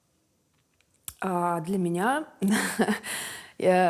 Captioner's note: laughs